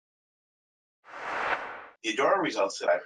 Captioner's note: whoosh